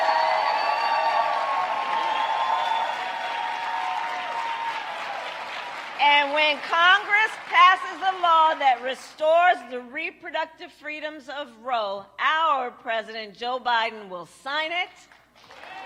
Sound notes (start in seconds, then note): 7.5 applause